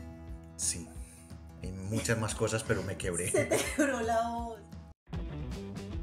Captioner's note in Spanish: risas